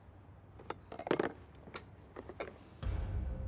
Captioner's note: objects clattering